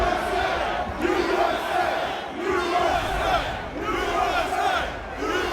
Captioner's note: crowd